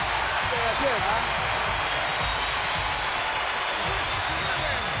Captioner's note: speaking French